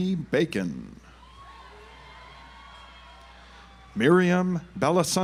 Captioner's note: audience applauds